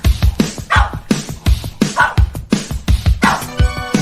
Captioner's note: dog barking